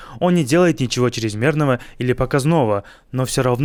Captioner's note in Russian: none